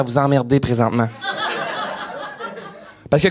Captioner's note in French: rires